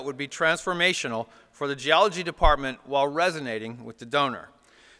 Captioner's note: none